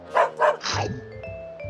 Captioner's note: dog barks